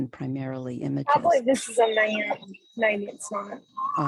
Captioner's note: soft Voice